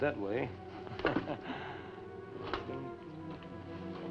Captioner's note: chuckles